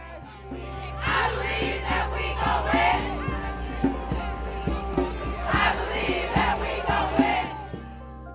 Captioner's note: protestors chanting